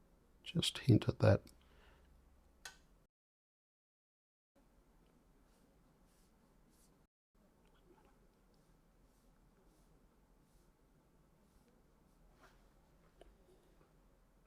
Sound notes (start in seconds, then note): 1.5 silence